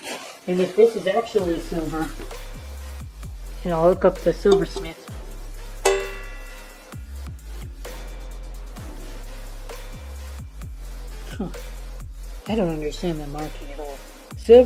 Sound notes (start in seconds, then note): 5.8 thwong